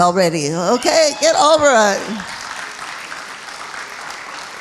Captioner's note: applauding